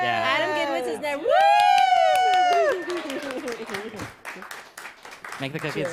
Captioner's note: cheers and applause